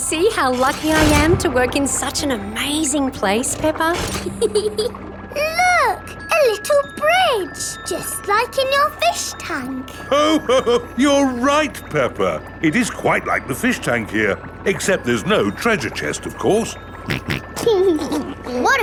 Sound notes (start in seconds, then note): 4.2 peppa giggles; 10.1 laughs; 17.0 snorts and laughs